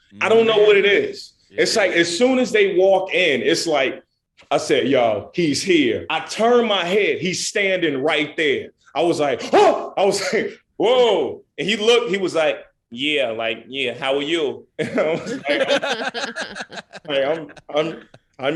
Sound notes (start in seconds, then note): 9.4 yells; 14.8 laughing